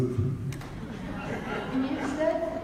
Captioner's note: audience laughs